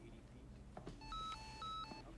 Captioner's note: cell phone rings